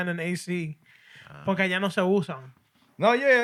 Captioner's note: non-english Speech